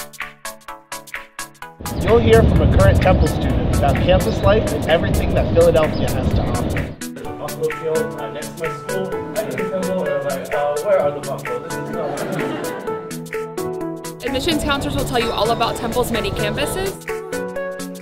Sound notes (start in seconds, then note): 11.8 laughter